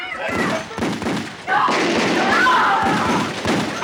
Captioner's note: gunshots